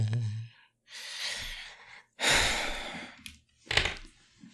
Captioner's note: heavy sighs intensifies